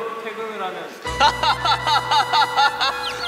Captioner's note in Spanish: Ja ja ja ja ja